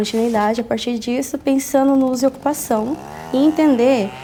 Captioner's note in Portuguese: serra elétrica